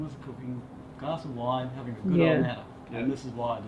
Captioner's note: murmuring